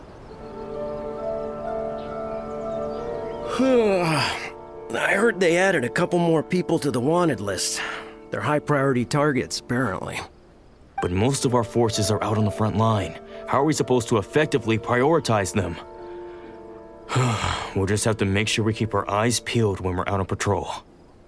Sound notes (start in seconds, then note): 3.4 yawn